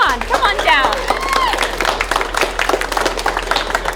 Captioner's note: crowd cheers; hands clapping